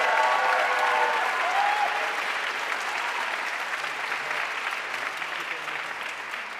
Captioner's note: audience cheering and applauding